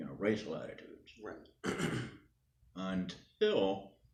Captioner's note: clears voice